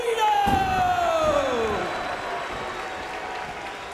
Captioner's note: audience cheering